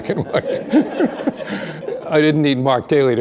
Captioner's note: laughter